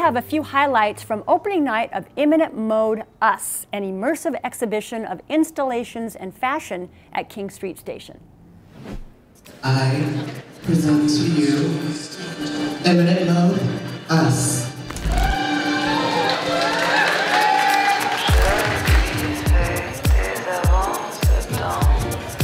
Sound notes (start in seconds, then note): 15.0 cheers and applause